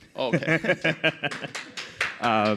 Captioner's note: laughter; applause